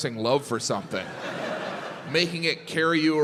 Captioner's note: crowd laughs